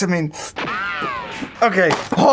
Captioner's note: ricochet